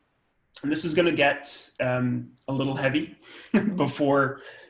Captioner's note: laughs